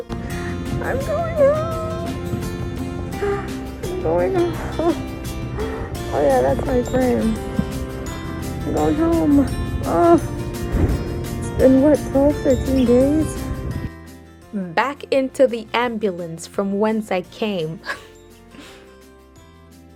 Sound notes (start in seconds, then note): 13.8 voice over; 17.8 laughs